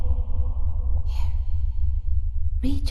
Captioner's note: whispers